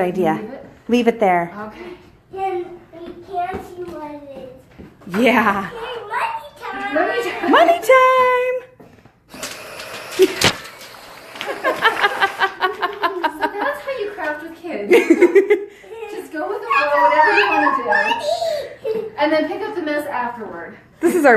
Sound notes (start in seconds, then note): 9.3 money gun running